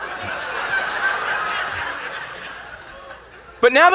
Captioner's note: laughing